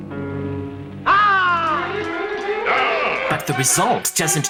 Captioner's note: shouts